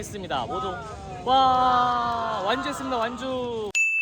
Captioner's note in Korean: 피곤함이 묻어나는 환호 소리